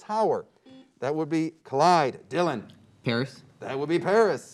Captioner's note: beep